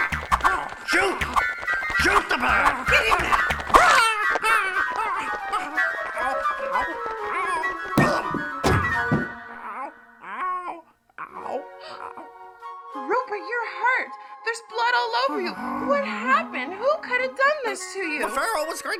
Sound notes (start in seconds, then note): 3.5 צווחות